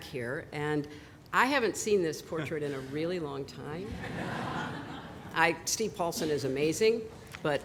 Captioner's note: laughter